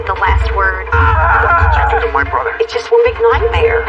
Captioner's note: screamg